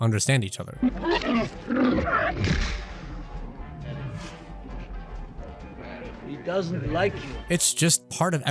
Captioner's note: speaking alien language